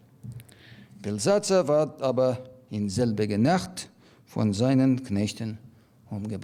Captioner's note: speaking in foreign language